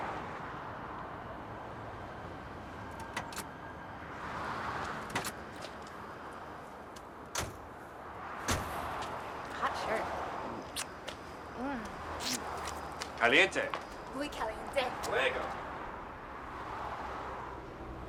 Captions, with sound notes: - Hot Shirt. Mm. (speaking in foreign language)